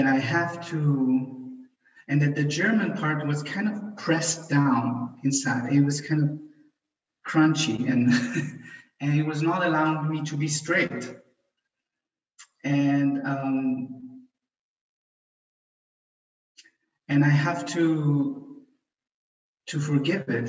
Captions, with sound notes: then I have to, and the German part was pressed down inside. It was kind of crunchy (chuckles) and it was not allowing me to be straight. And I have to forgive it and let it be.